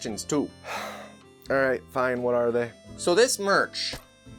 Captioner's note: sigh